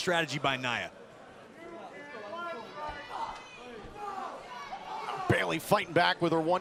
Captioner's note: crowd cheering